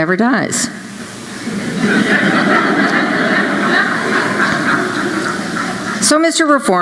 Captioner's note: laughter